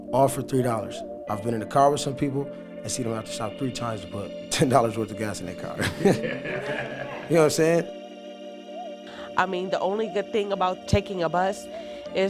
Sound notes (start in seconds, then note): 5.8 laughing